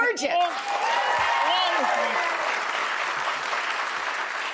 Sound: audience applauding

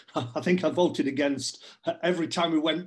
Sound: chuckles

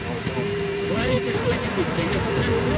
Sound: angle Of Attack Warning Sound

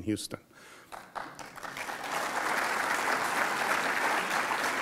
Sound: audience claps

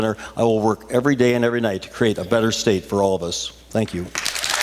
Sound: cheers, applause

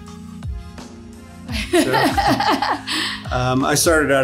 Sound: lady laughing

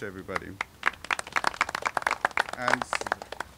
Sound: applauding

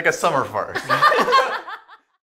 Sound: laughing

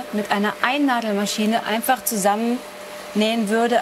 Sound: none

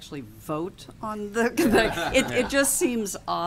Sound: laughter

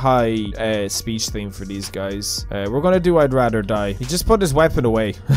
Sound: laugh

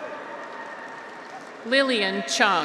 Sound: audience applauds; graduates cheer

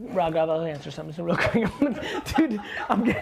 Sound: laughing

